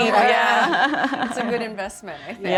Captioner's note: laughs